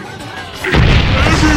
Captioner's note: house Blows Up